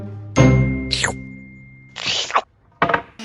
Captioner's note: long licking sound